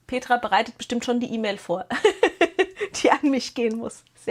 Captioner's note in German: gelächter